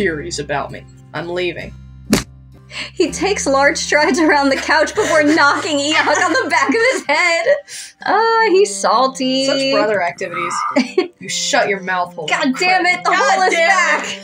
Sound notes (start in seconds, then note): 2.1 smack; 9.3 giggle